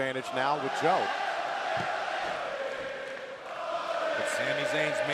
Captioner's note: fans chanting